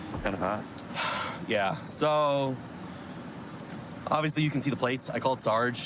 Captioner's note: sighs